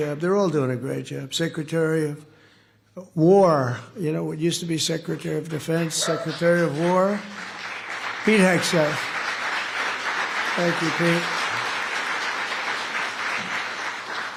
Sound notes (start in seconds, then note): 9.3 applause